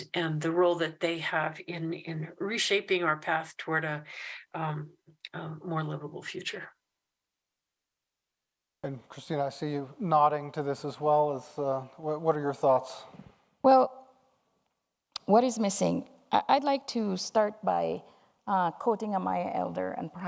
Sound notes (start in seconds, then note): none